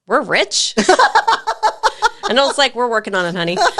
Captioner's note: laugh